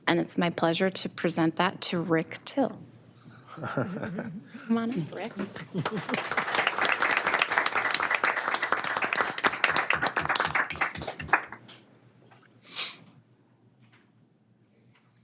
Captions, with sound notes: And it's my pleasure to present that to Rick Till. (attendees chuckles) Come on in, Rick. (attendees clapping)